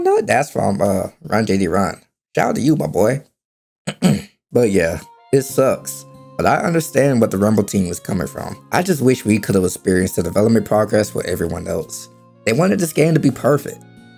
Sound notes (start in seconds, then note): 3.8 clears Throat